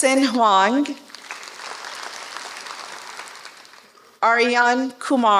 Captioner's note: applause